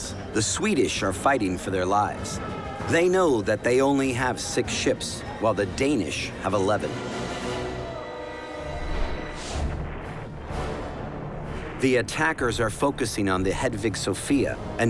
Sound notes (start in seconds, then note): 9.6 cannon fire